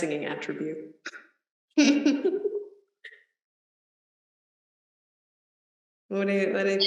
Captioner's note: laughs